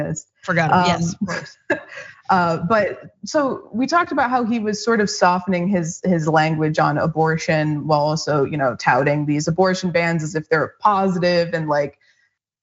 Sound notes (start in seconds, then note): 0.5 laugh